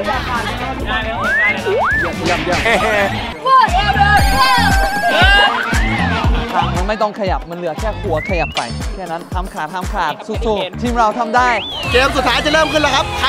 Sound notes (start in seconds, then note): 3.5 cheering